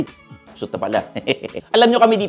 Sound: chuckles

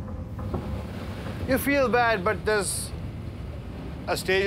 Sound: none

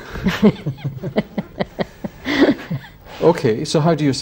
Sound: laughter

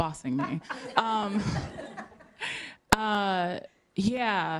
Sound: laughter

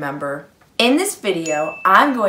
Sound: bell dinging

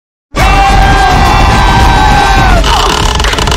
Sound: fighting noises

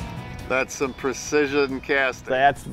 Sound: voiceover; mumbling

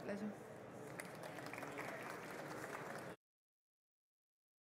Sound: applause

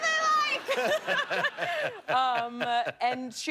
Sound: laughter

